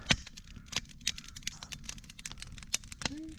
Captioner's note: campfire crackling